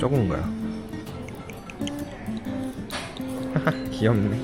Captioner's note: pouring sounds